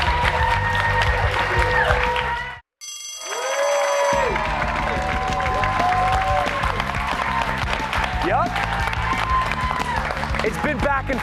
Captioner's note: cheers and applause